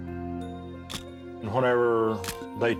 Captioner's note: camera shutter click